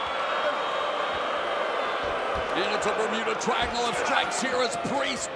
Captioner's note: crowd chatter